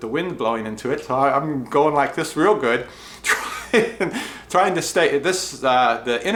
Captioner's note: laughs